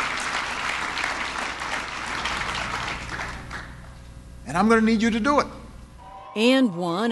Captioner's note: applause